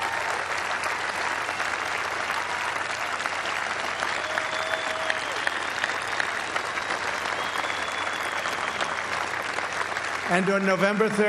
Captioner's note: applause